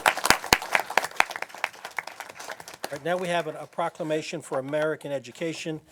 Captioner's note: applause